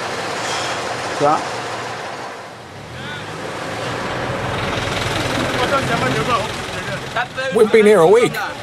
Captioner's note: foreign language